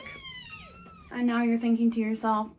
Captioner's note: back and forth squeaky meowing